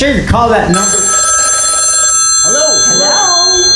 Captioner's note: rrrriiinnnggg